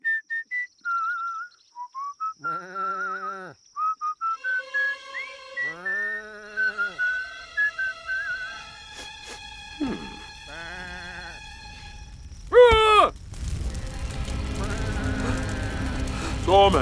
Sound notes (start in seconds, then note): 0.0 Moses whistling; 2.9 sheep bleating; 4.5 mysterious music; 8.9 Moses sniffing; 9.8 sheep bleating; 12.5 Moses yelling